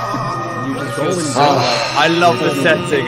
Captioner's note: Sigh